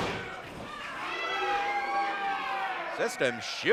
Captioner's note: crowd cheering